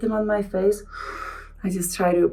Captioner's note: Helena inhaling